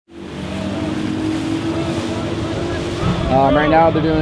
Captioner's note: motor whirring